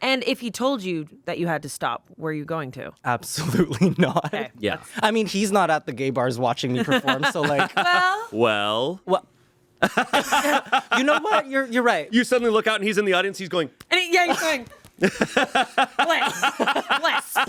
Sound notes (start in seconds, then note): 4.0 laughs; 9.8 everyone laughs; 15.0 everyone laughs